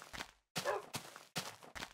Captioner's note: woof!